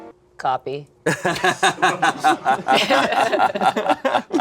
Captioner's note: group laughing